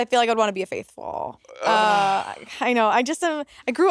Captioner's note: Monét sighing